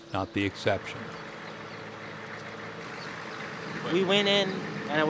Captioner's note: idling engine